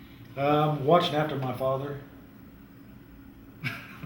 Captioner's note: laughter